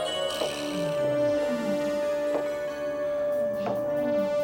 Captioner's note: footsteps tapping